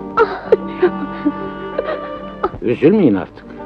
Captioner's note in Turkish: Hıçkırıklar